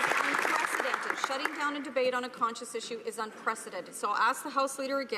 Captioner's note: some Applause